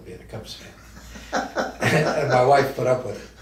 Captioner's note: laughs